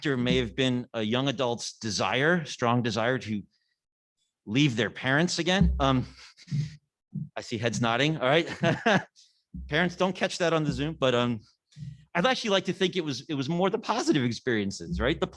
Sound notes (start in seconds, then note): 8.4 chuckles